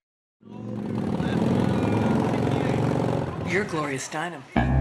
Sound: motorcycle engine rumbling

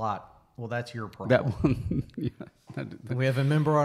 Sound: laughs

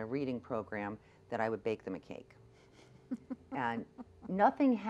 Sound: laughs

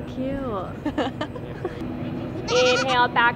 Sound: audible laughing

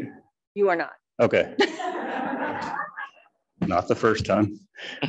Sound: audience laughing

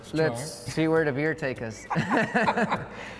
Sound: laughs

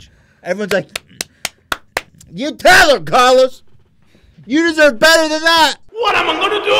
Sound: clapping 6 times

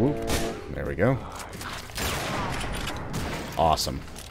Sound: bam

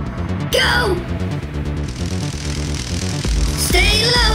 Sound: crackling electricity

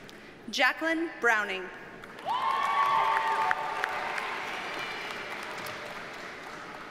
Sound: audience cheers and applauds

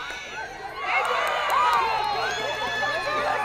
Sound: crowd cheering

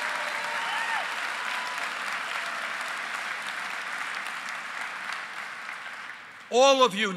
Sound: applause

